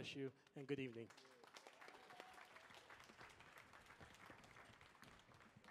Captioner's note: audience applauding